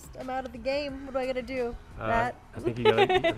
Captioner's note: laughing